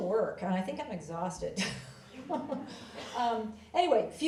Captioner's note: laughs